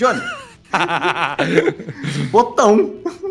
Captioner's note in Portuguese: Risada